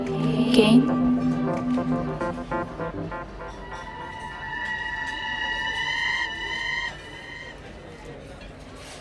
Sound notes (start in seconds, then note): 1.6 eerie music; 1.6 patrons chattering